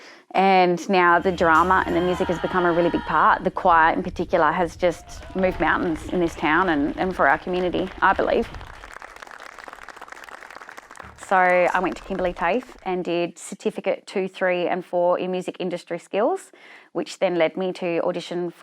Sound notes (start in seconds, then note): 5.0 crowd cheering; 8.8 crowd clapping